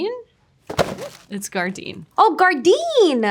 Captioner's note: packaging thudding